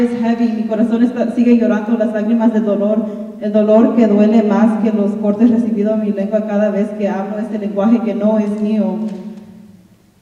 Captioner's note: speaking in Spanish